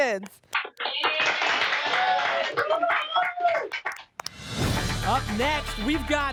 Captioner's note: applause and cheering